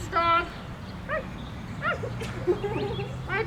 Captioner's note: barking